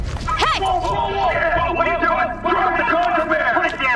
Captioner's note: soldiers shouting